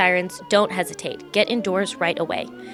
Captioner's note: siren blaring